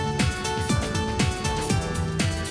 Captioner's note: none